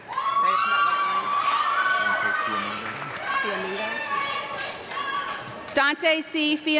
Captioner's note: audience clapping and girls screaming